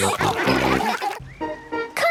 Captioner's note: all laughing